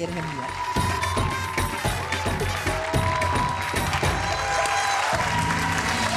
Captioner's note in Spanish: Aplausos